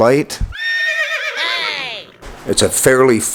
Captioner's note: horse neighs